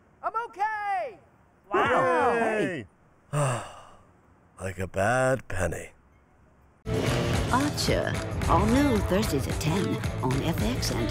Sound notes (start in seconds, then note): 1.9 sarcastic muttering; 3.2 sighs